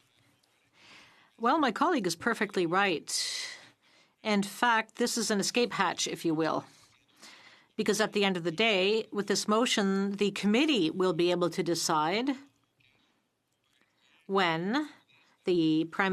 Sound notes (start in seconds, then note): 2.5 speaking French